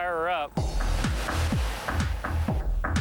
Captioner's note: engine turns over